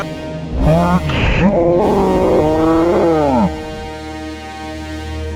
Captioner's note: slowed down speech drawling